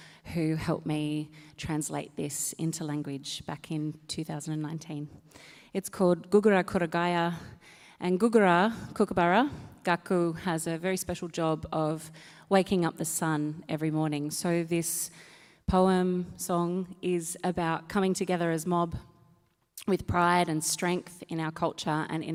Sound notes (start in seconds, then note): 6.5 speaks native language; 10.1 speaks native language